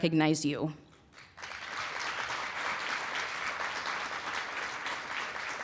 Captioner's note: applause